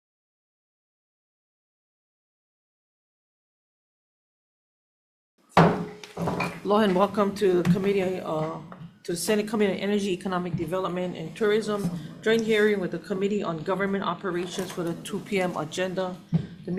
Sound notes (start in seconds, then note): 5.6 gavel bangs